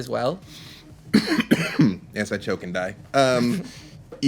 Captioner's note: coughs